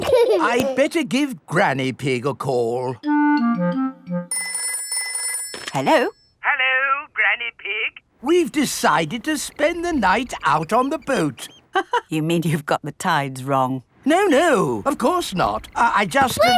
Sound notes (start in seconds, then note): 4.3 telephone ringing; 12.0 laughs